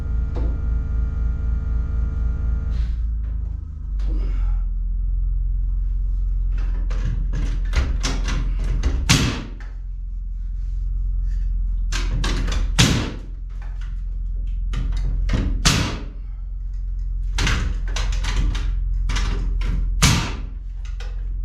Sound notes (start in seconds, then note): 6.4 hammer thudding; 15.4 s mayo hammer thudding